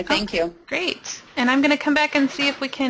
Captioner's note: voiceover